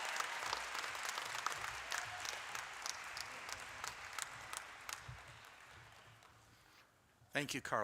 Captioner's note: cheers and applause